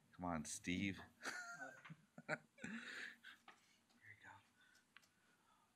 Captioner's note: laughs